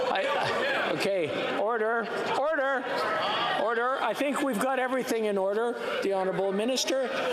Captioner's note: yelling